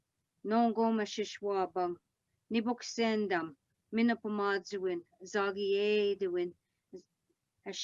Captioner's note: speaking Algonquin